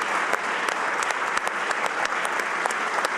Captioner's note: applause